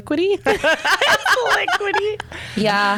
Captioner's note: laughs